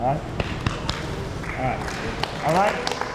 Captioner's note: applause